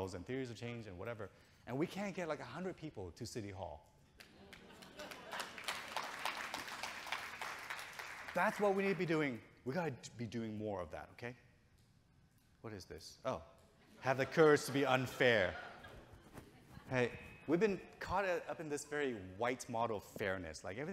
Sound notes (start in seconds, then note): 4.2 audience clapping